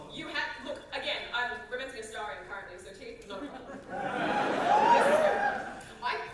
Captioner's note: audience whoop